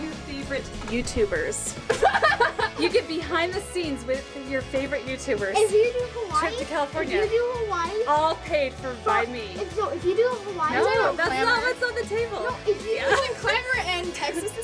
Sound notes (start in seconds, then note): 1.8 laughs